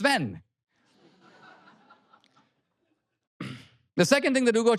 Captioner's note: audience laughter